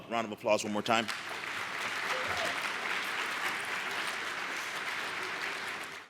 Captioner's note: applause